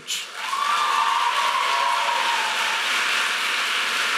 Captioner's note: audience applauding